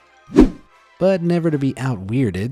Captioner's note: image whooshing